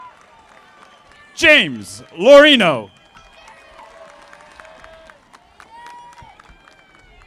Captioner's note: audience applauding